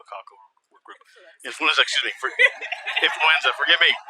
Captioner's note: laugther